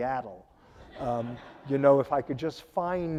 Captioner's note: audience laughing